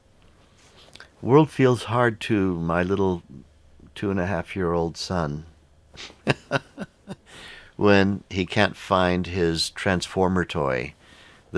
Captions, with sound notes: The world feels hard to my little 2 and a half year old son, (laughs), when he can't find his Transformer toy,